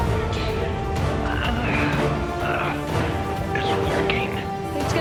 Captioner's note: groans